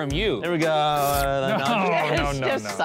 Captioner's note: slobbering